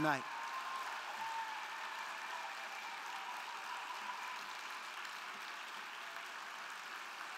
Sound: crowd cheering; crowd clapping

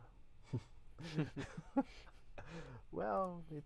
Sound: laughs

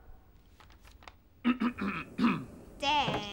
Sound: throat clearing

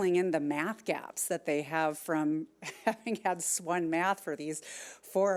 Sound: laughs

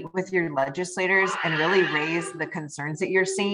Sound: baby screaming

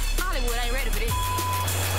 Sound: beep

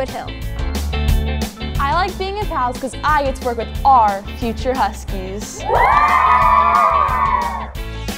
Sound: cheering

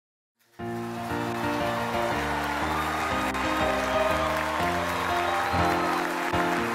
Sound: applause underscored with accompaniment

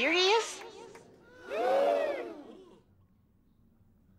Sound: gasps

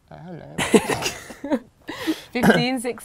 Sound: laughing

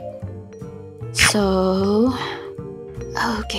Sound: snakey nom nom chompy noise

